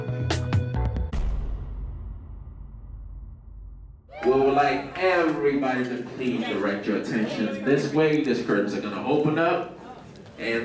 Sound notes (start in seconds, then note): 1.1 title booms